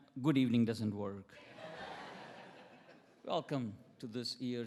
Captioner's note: attendees laughing